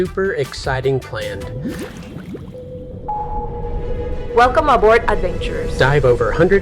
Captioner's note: submarine Sounds